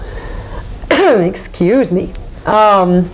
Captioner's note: coughing